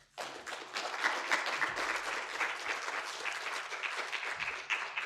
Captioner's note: audience applauding